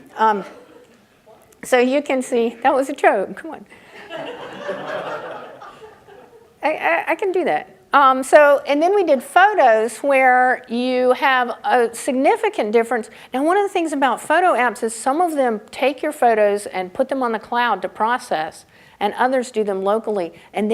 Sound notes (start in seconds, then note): 3.9 audience laughing